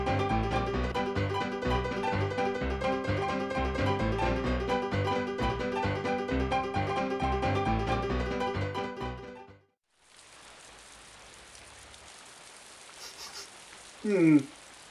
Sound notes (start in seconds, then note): 9.8 heavy rain; 13.0 sniffs